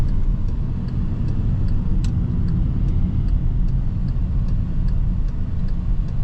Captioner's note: car engine